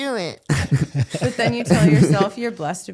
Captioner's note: both laughing